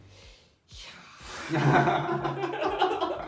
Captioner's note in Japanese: 苦笑